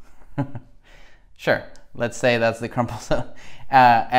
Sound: laughs; laughs

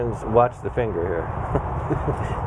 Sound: laughing

